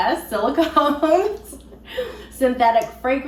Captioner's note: both laughing